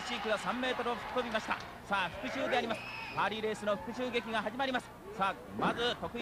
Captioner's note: japanese commentary